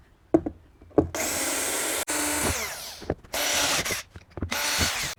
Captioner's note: drill whirring